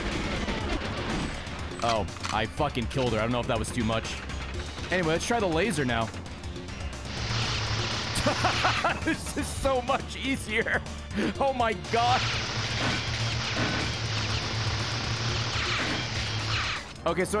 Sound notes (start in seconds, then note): 8.2 laughs